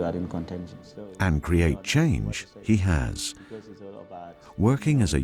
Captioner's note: voiceover